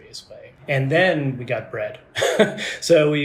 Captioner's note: laughs